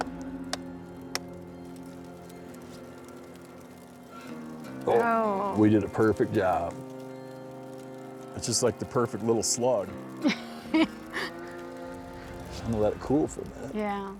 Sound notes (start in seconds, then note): 6.6 mid-tempo music plays; 10.2 laughs